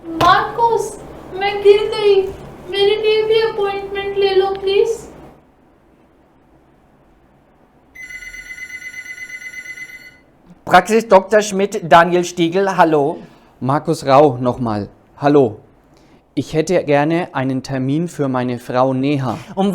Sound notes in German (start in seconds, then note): 7.9 Telefon Ringen